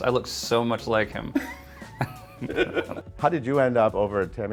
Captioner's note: both laughing